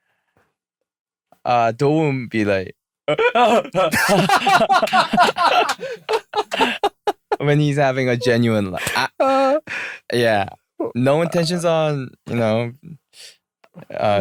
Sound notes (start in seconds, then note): 3.1 imitating Dowoon's laughter; 3.1 real laughter